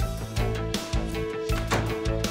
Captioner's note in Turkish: Anahtar sesi